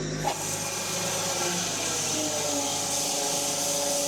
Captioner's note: log saw whirring